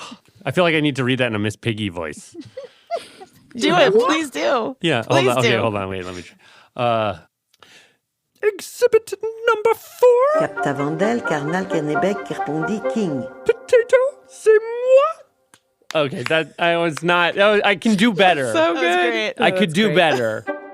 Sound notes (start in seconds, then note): 2.2 laughs; 12.5 speaking in French